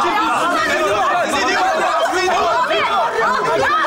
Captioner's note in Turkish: bağrışmalar